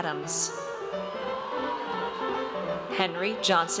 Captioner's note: audience cheers